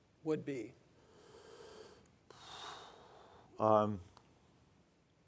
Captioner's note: none